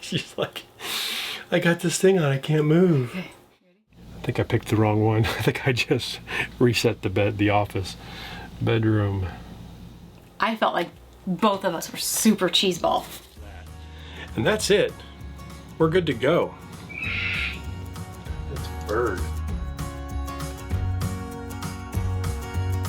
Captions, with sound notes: - She's like, "I got this thing on, I can't move!" I think I picked the wrong one. (laughing) I think I just reset the office. Bedroom. - I felt like both of us were super cheese ball. - And that's it, we're good to go. (bird squawks) That's a bird. (upbeat music)